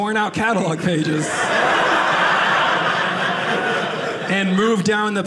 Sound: audience laughing

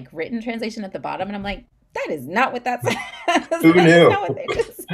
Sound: laughs

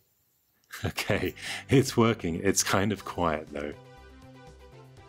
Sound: laughs

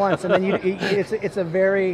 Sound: laughing

